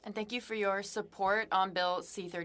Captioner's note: speaking French